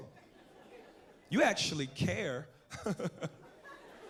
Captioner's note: laughs